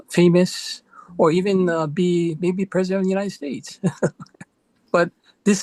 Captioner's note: chuckles